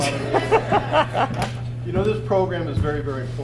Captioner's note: officer laughs